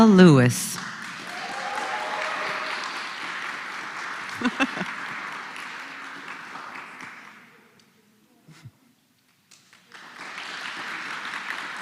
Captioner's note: applause